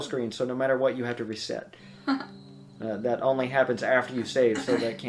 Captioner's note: laughs